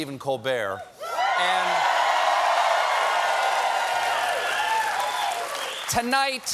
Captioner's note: cheers and applause